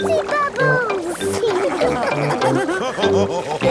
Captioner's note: all laughing